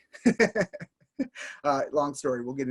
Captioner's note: laughing